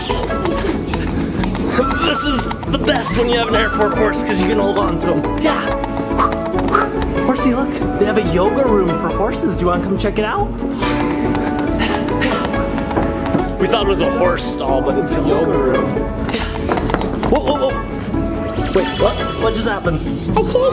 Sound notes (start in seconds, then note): 6.0 footsteps clopping; 11.4 footsteps clopping; 18.6 audio tinkles